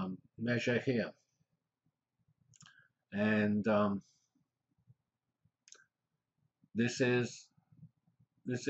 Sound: pause

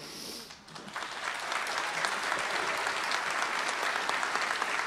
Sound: applause

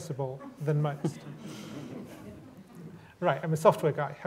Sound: laughter

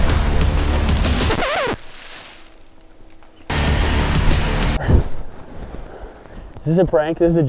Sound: record scratch & music stops

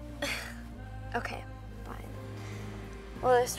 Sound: laughs

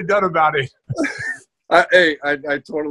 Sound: laughs

